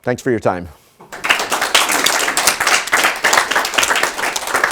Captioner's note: attendees clapping